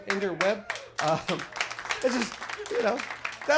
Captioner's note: audience applauds